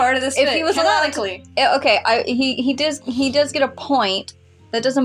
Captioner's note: stutter